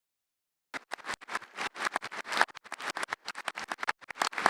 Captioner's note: audience applauding